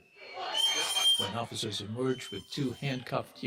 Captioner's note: whistles blowing